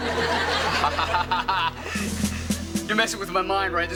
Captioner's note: laughing